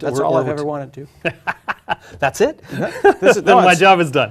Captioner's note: laugh